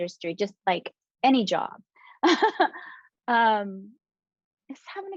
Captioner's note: chuckling